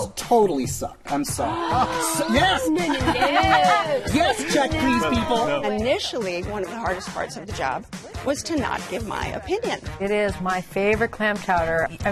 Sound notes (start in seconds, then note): 1.9 gasps